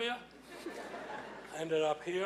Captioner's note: laughing